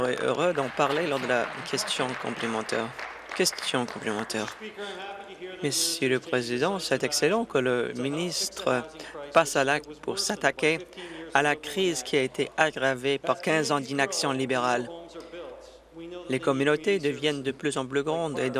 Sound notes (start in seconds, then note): 3.9 applause